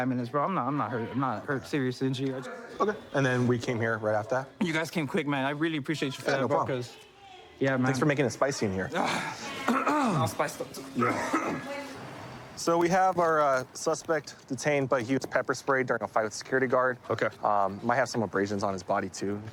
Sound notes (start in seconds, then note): 9.6 clears throat; 10.7 coughs